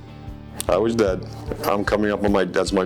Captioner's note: lips smacking